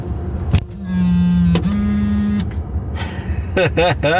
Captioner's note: car trunk hums; narrator laughs